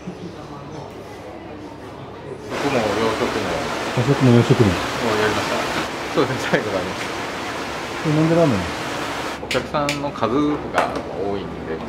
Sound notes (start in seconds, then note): 3.5 eating and drinking